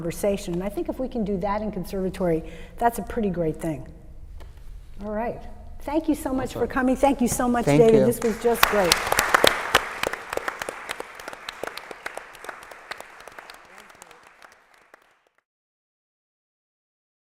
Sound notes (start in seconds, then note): 9.5 applause